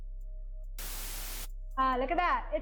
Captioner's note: white noise